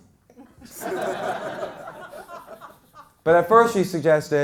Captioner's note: crowd laughs